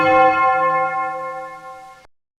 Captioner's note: clock chiming